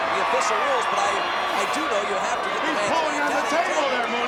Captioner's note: speaks faintly